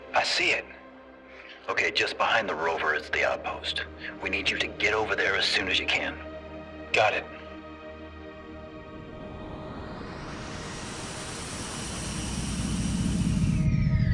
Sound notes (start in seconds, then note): 9.8 ship engine humming